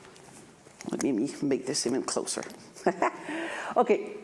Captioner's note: laughs